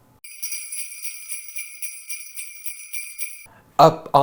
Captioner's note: bells jingling